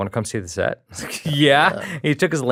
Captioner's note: chuckles